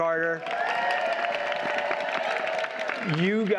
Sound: audience cheers and applauds

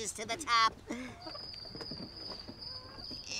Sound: crickets chirping

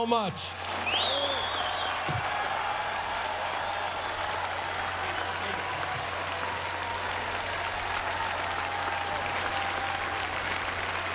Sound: applause

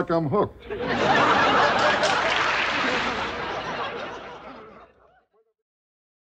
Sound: audience applause and laughter

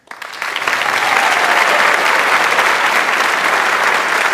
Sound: audience applauds

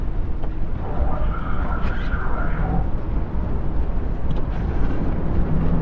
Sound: Combine radio chatter

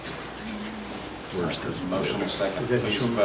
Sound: overlapping chattering

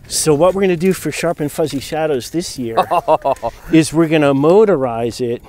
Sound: laughs

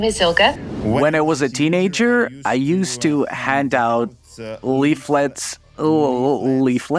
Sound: Dud reads in English

